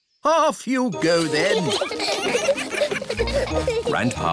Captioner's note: giggling